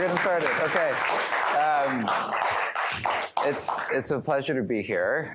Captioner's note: applause